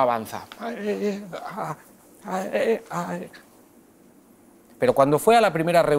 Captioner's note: struggle noise